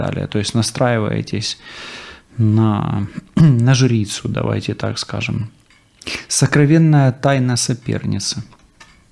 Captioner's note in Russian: откашливается